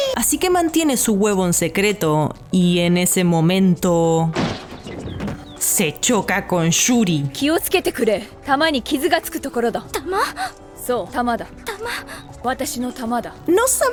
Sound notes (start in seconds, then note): 4.3 knock sound